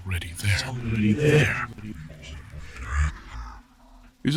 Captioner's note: Chartrulean's voice reverberates and moves around the space, hauntingly unstable